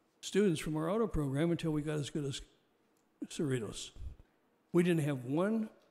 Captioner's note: audio skips